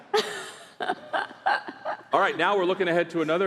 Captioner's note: laughter